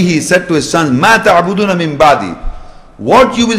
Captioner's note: Arabic